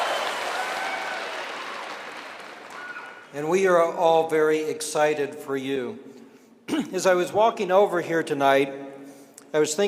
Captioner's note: cheering and applause